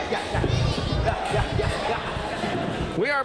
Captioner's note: audience rambling